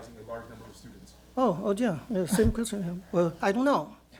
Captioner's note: speaks Mandarin